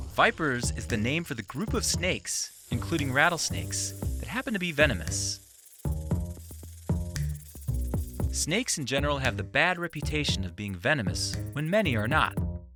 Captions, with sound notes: Vipers is the name for the group of snakes, including rattlesnakes, that happen to be venomous. (light music) (snakes rattling) Snakes, in general, have the bad reputation of being venomous, when many are not,